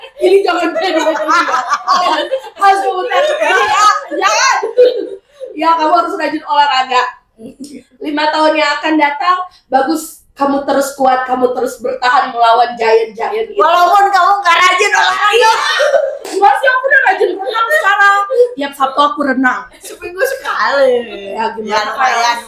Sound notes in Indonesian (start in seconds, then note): 3.1 berteriak; 14.6 berteriak